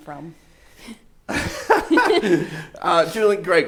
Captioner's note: laughs